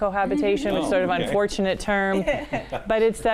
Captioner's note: laughing